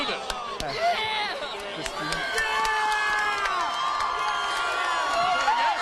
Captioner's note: fans cheering